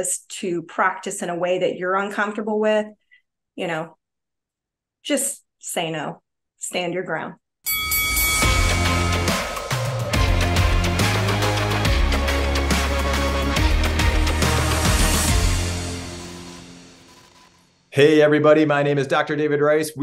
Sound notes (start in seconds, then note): 7.6 bell dings; 8.6 upbeat music